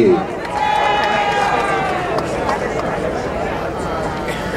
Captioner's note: crowd cheering